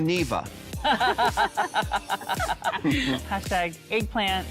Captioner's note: laughing